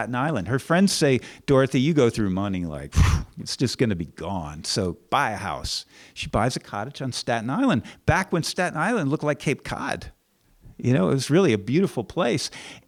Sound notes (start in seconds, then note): 3.0 whooshing sound